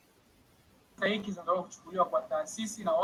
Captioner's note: foreign